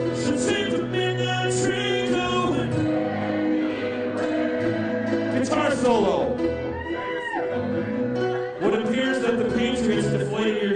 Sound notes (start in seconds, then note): 0.0 crowd; 3.0 crowd